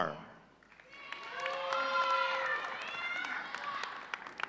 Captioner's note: audience cheering